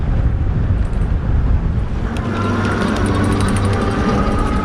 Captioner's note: wind rushes past; bike chains clank; electric motor whirs loudly